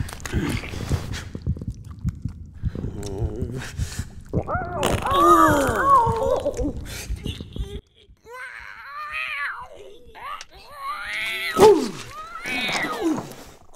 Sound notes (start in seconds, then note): 4.3 farting; 4.5 cat screams; 8.8 cat screams